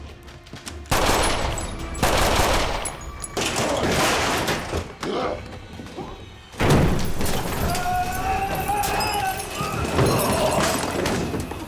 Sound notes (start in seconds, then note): 5.1 growls; 7.0 yelling